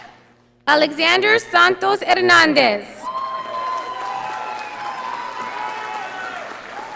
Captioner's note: audience applauding